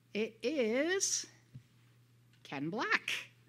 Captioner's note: silence